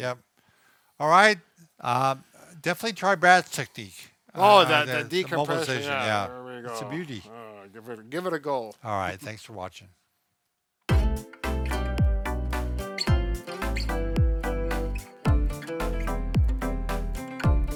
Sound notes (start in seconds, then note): 7.3 grumbling; 12.5 upbeat theme song music